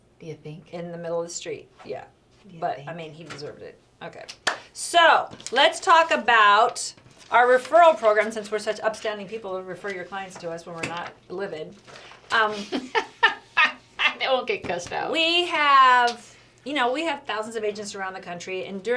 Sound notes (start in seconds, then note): 12.4 laughs